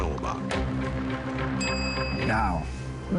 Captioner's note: ding